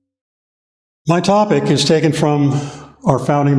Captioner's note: temple gong rings and fades